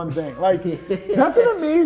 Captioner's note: chuckles